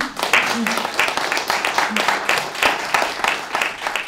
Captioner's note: audience applauds